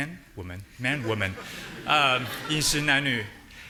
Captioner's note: audience laughing